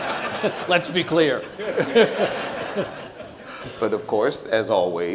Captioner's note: audience laughs; laugh